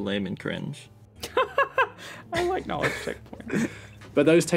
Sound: laughs

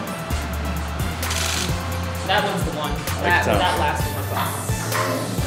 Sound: camera shutter clicks

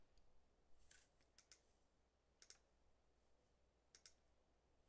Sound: mouse clicking

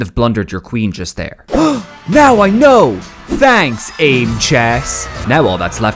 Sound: gasp

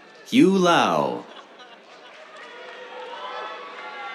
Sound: cheers, applause

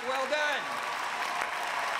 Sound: cheers and applause

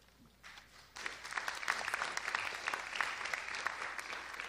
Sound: audience applause

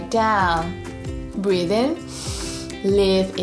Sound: breathes in deeply

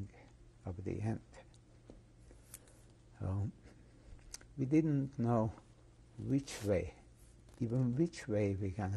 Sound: pauses for 3 seconds

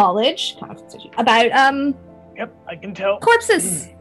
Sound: strained

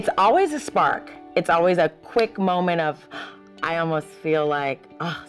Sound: gasps

